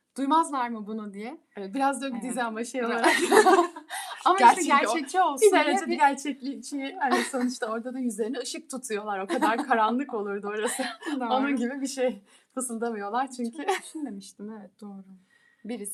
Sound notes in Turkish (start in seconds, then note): 3.0 kahkaha; 9.3 kahkaha